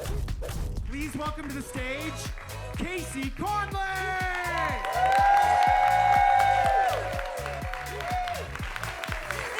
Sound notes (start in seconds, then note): 0.3 intense swoosh; 5.3 audience cheers and claps